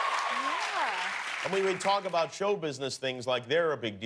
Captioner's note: cheers and applause